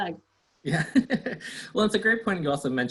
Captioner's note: laughs